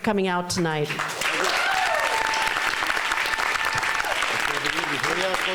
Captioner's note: applause